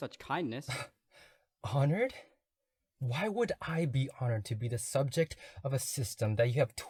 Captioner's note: scoffs